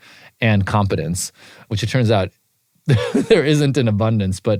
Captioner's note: laugh